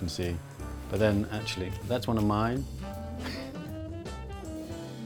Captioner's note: chuckles